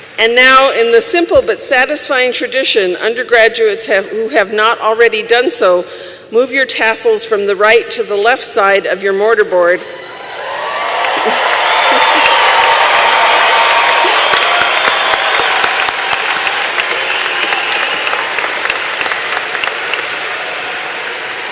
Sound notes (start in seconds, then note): 11.4 cheering and applause